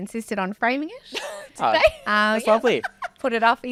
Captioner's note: laughing